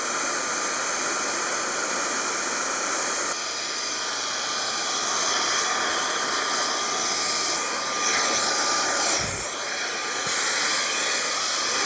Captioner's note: blower whirring Maybe Forever???